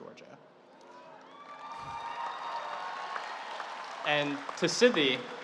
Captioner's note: audience cheering